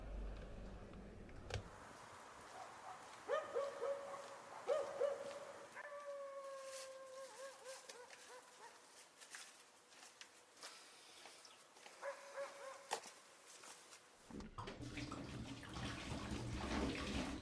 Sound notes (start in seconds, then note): 2.5 dog barking; 5.8 dog howling